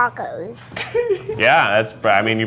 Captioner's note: giggles